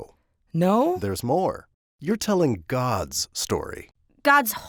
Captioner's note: voiceover